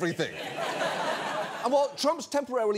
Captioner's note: audience laughs